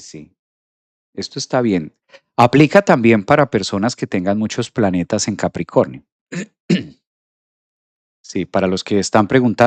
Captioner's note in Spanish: carraspeo